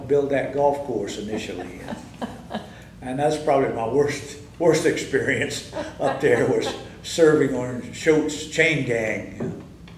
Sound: laughter

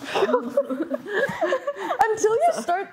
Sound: both laughing

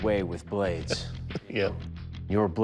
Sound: chuckles

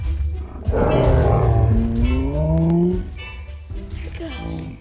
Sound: stegosaurus rumbles

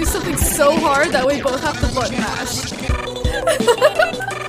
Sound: giggles

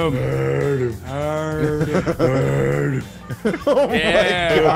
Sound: laugh

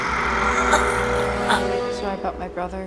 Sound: Michael gasps for air

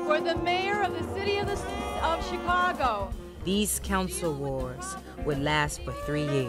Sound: crowd

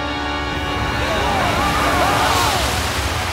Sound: screaming

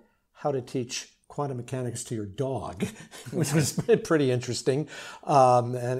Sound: both laugh

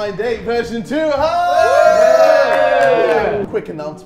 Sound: Sidemen cheering

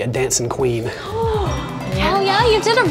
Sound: gasps

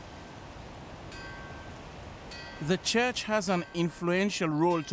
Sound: church bell ringing

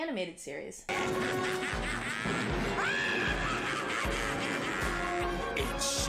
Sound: maniacal laughter

